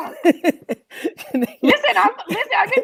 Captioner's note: Garyvee laughs